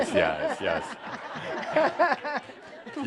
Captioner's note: laughter